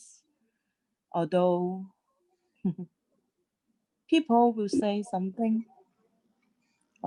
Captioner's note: laughter